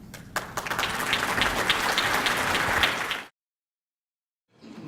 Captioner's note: audience clapping